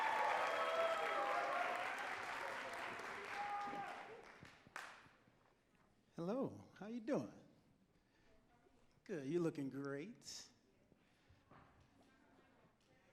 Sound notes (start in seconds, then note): 0.0 audience cheering and clapping